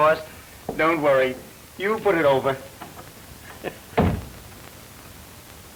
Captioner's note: laughs